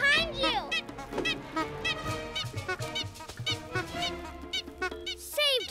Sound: honk-honk-honk

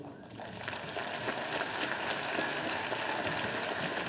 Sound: audience applauding

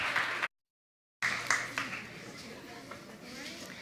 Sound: cheers and applause

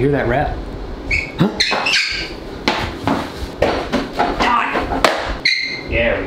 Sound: squeaking; foot steps pattering

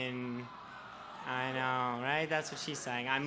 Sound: group of people whine

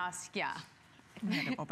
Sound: laughter

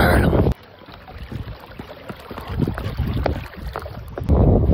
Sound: water rushing

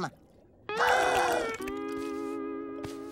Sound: gasping

